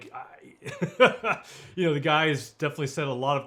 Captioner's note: laughing